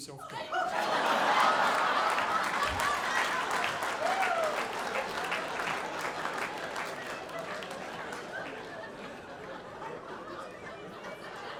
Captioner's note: audience laughing